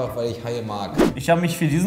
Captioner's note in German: woosh